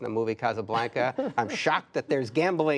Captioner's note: laughter